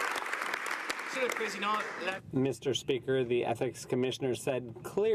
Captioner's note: some Applause